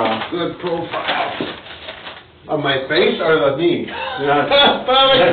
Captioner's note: laughs